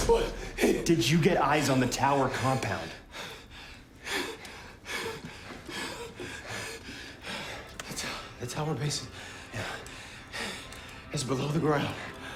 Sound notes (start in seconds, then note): 2.1 panting